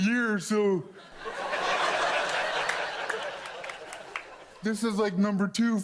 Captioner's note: audience laughs